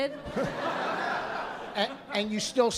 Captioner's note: laughter